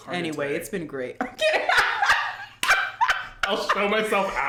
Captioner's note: laughs